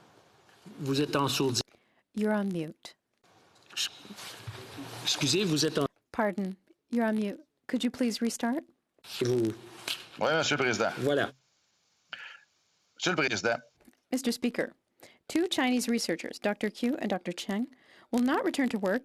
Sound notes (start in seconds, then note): 5.6 speaking French